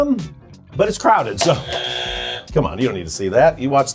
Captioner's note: buzzer buzzing